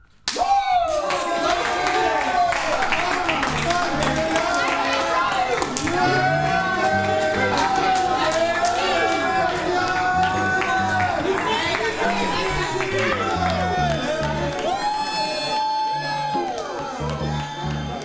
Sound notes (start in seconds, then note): 3.0 indistinct cheering and commiserating